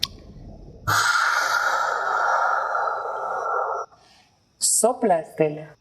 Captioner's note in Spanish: Sonido de soplido